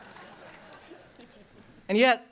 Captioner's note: laughter